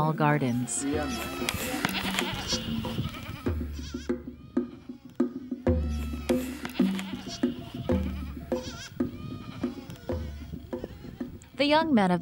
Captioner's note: sounds of cattle herding